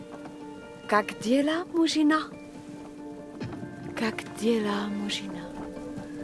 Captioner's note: Catherine speaking Russian